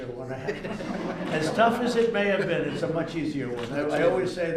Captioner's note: laughter